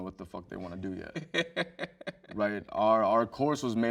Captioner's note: host laughs